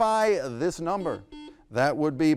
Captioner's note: buzzer buzzes